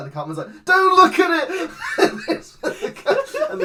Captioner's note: laughs